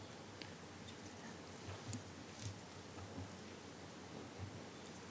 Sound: speaking faintly

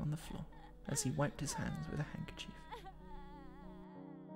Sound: sobbing

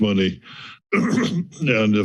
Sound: clears throat

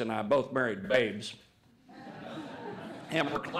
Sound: laughter

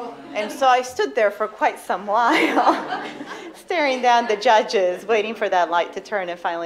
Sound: laughter

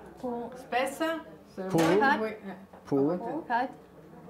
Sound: speaking Italian

